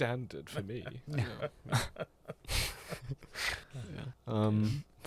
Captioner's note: laughter